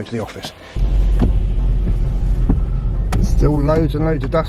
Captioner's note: door slams